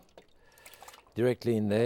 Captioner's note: sauce splashing